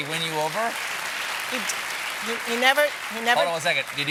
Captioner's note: applause